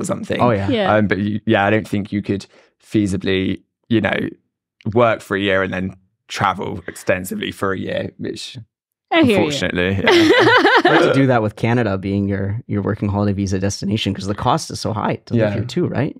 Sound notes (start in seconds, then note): 10.0 laughs